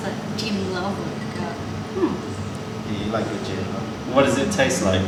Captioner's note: sips gin